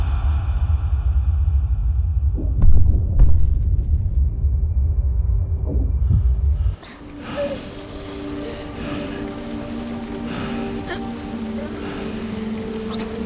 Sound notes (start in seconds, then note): 0.3 ringing; 7.7 whimpering and choking